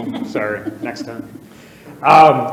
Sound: audience laughing

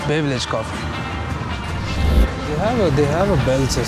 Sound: air whooshing

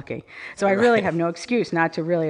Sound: laughs

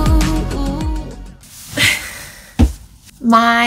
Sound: shy giggle

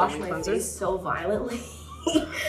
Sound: laughing

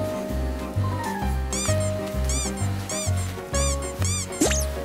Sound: big steps

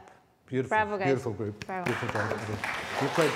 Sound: applause

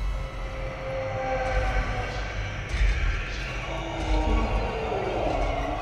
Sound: loud monster noises

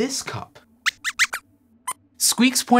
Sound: squeaks!

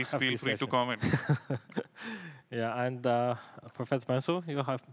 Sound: laughs

